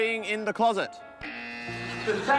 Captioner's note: buzzer